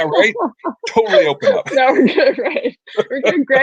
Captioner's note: laughing